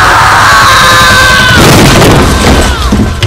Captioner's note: Cupboard crashes